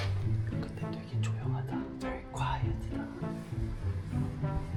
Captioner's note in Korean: 소곤소곤